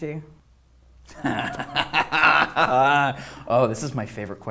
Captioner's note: laughter